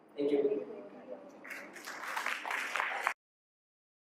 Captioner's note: clap